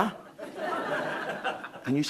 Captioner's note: crowd laughing